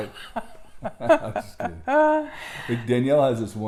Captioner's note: laughs